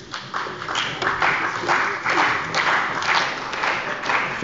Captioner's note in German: Beifall bei der CDU und dem BÜNDNIS 90/DIE GRÜNEN